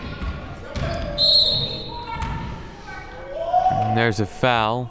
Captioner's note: referee blows whistle